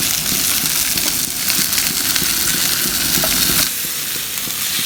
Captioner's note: food sizzling